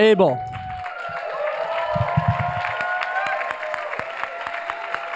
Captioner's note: cheers, applause